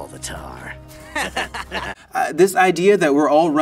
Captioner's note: both laugh